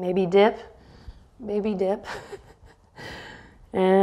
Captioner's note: chuckles